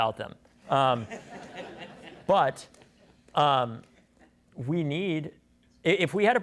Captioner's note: laughter